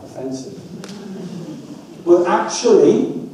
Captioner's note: audience laughs